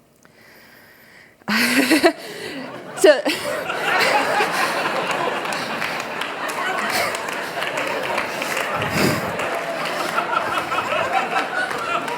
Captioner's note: applause; laughter